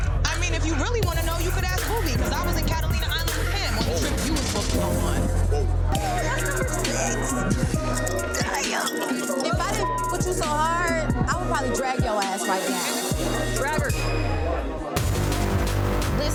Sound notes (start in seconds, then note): 5.8 hip hop instrumental music; 10.7 beeps; 13.9 overlapping chatter; 15.3 fast-paced techno music